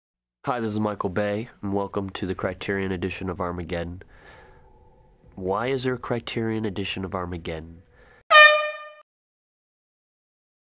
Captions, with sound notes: Hi, this is Michael Bay, and welcome to The Criterion edition of Armageddon. Why is there a criterion edition of Armageddon? *air horn*